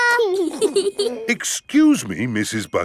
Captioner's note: both giggling